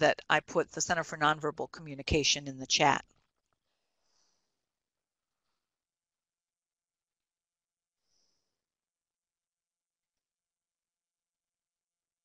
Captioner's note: silence